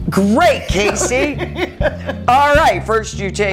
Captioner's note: laughing